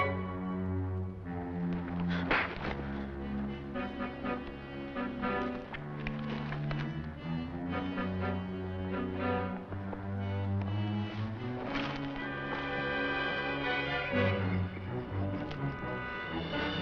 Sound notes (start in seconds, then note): 2.2 slap cracking